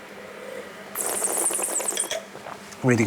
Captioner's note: slurping